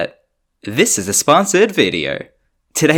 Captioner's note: imitates Reagan